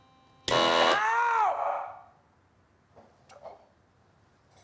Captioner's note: machine blaring